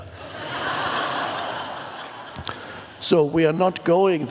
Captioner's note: audience laughs